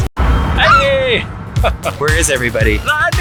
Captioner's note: screeches